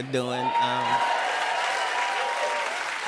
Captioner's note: cheers and applause